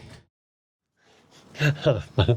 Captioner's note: laughing